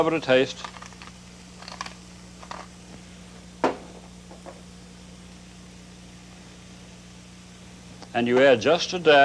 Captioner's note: sizzling